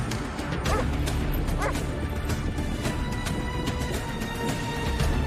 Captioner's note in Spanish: Ladridos